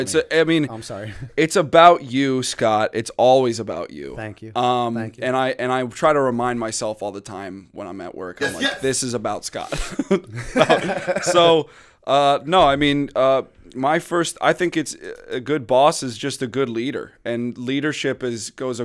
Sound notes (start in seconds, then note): 9.7 laughter